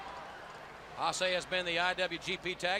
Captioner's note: crowd chatter